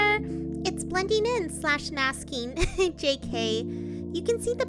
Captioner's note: laughs